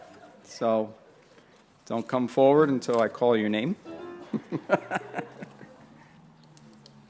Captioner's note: laughs